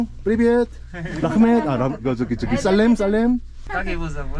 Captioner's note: in Kazakh